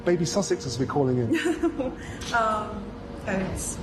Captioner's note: Meghan laughs